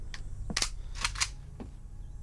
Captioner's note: guns cocking